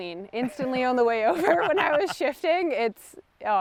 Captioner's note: chuckles; laughs